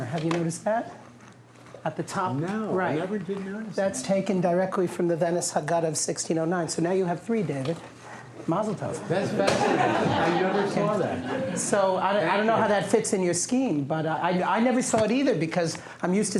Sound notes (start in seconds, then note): 9.1 laughter